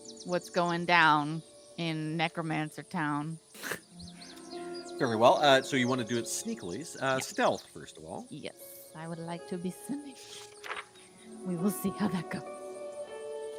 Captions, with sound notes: what's going down in necromancer town. (Cornette chuckles) - Very well, so you wanna do it sneakily- - Yeah. - Stealth first of all? - Yes, I would like to be swinish. We will see how that goes.